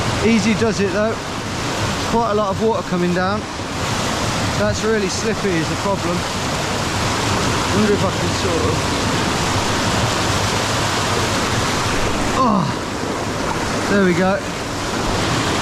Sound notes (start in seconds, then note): 4.1 water rushing loudly; 10.6 water rushing loudly